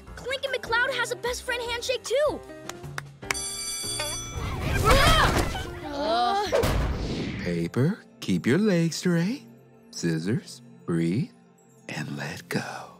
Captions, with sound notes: Clincoln McCloud has a best friend handshake too! [bell ringing] [grunting, groaning] Paper, keep your legs straight. Scissors, breathe and let go.